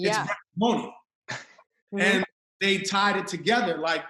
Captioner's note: laughs